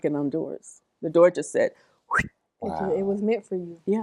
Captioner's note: swoosh sound